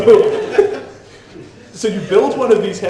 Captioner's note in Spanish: la audiencia se ríe